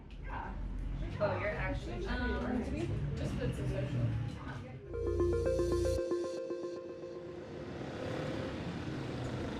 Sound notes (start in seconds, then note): 1.2 students chattering; 4.8 upbeat music